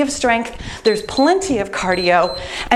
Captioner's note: timer beeps